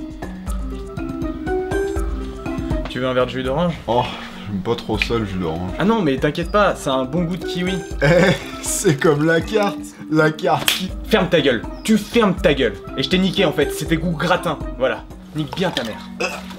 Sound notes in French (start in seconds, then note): 10.5 slap !